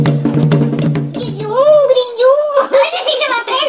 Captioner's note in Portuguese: voz modificada para tom engraçado